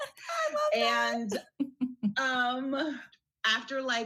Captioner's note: chuckles